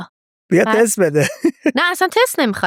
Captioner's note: laughs